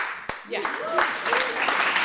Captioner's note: audience applauds